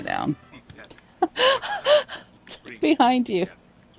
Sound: laughs

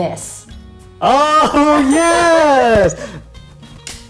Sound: both laugh

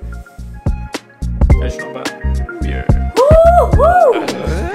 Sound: Sean Connery accent; yet another grunt

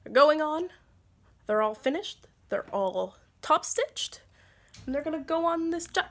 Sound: AC kicks on

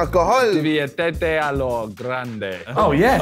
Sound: speaks in Spanish

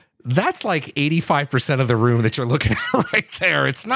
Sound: laughing

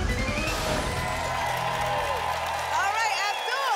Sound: applause

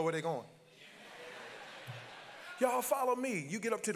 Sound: congregants laugh

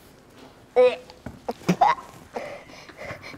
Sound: gags; spits

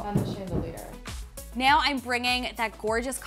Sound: mirror thudding

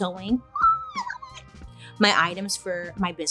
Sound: screeches

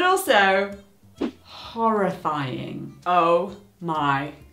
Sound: swooshing

